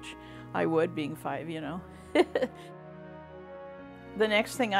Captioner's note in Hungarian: nevetés